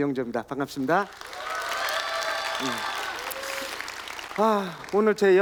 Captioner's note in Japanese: 拍手と歓声